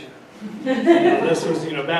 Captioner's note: audience laughing